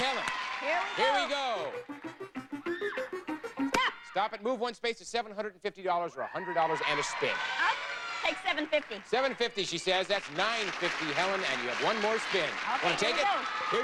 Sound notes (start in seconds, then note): 6.8 audience cheering; 12.4 audience applauding